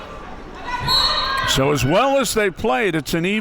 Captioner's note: whistle blows